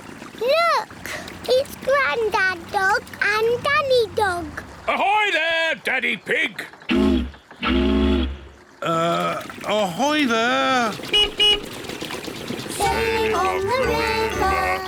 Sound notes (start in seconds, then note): 7.5 toots horn; 11.0 beeps horn